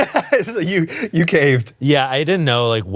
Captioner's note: laughs